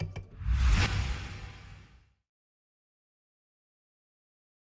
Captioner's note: digital noise swishes